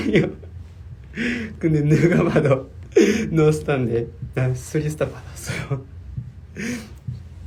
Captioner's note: laughs